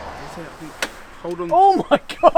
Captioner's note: metal snaps; laughing